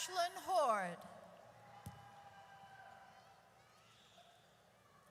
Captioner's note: audience cheers